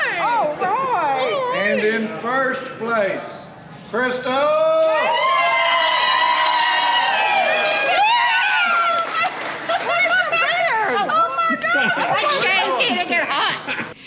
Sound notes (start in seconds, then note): 4.9 women cheering